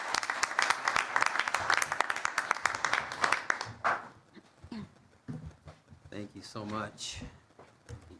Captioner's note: applause